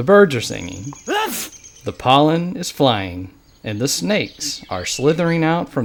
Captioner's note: sneeze